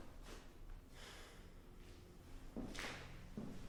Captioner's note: sighs